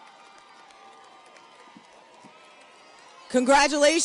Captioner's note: audience cheers and applauds